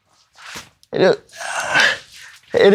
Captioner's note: boy stutters